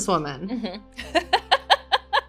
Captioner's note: laughing